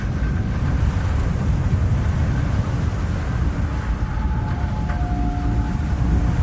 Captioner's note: waves crashing